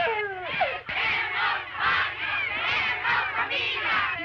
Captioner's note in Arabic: يستمر الهتاف